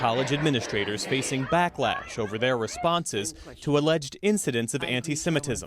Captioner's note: chanting